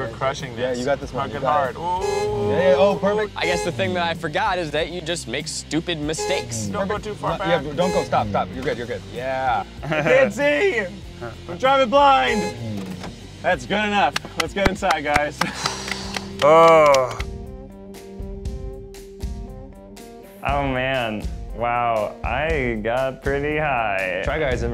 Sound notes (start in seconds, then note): 11.9 car honks; 17.2 clapping; 18.2 dramatic music